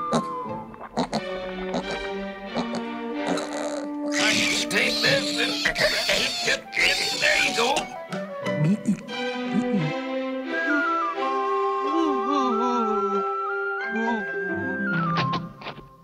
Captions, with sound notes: [SQUEALING] Take this. There you go. Ooh--ooh--ooh. Ooh, ooh.